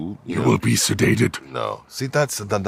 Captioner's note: imitating proximus